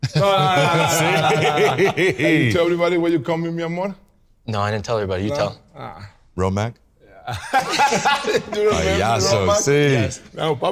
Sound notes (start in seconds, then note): 0.0 all laughing; 7.3 laughs